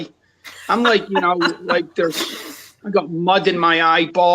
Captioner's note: laughs